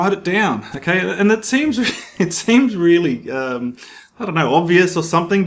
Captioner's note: chuckles